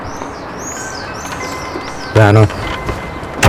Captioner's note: doorbell ringing; car door closing